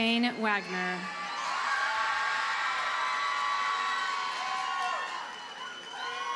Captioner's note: audience cheers and applauds